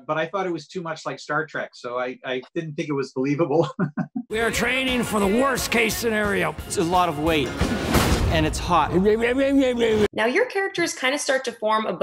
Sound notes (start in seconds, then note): 3.5 chuckles; 8.4 mumbles mockingly